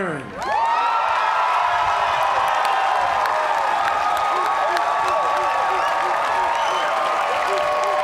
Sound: cheers and applause

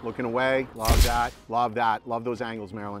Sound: shutter snaps

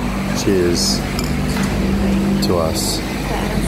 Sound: glass clicks

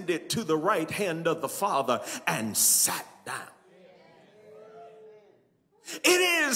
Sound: congregants cheer

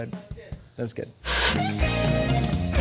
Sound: Static

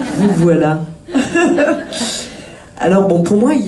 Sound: laughs

